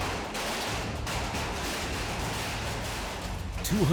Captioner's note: raining hail on metal